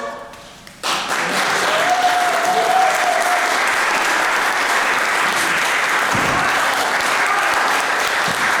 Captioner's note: applause